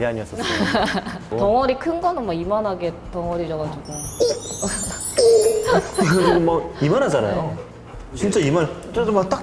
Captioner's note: laughing